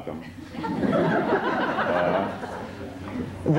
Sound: laughter

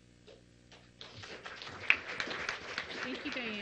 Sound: applause

